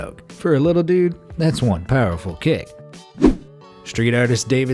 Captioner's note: air whooshing